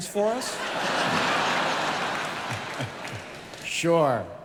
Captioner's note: audience laughing